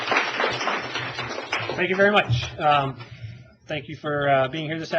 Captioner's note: applause